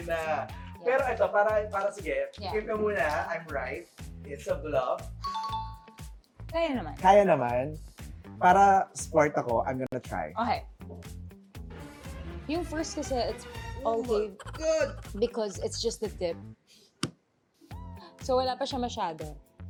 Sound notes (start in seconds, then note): 14.3 laughs; 14.4 grunts